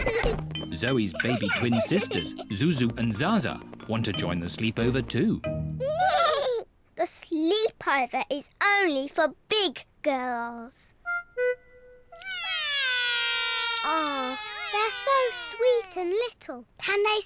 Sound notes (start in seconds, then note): 5.4 both whinny; 12.2 both wail